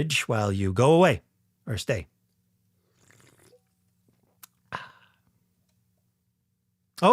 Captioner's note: sipping sound